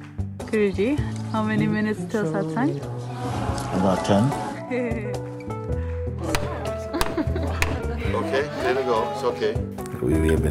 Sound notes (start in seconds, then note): 6.8 laughter